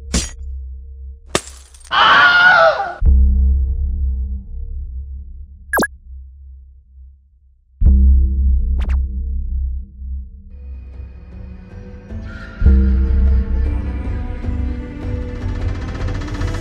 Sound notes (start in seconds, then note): 1.3 breaking glass; 2.0 The famously dorkish 'Wilhelm Scream'